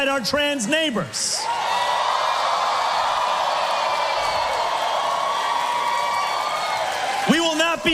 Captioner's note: massive crowd cheer